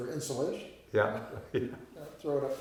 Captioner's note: laughing